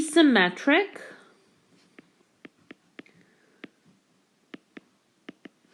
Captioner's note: keyboard Tapping